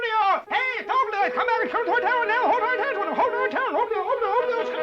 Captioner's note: yelling gibberish; jubilant music